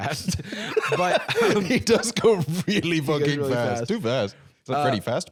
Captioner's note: laughing; laughs